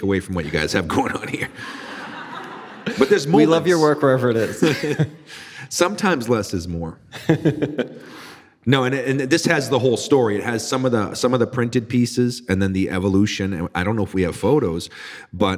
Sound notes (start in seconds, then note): 1.4 audience laughing; 5.1 laughing; 7.1 laughing